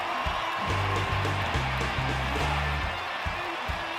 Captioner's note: rock music; applause